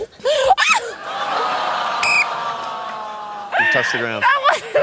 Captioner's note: groaning, laughter; whistle blows